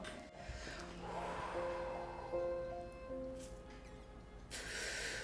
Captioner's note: exhales loudly; inhales deeply